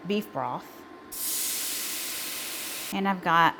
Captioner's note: broth sizzling